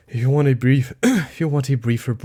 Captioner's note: ahem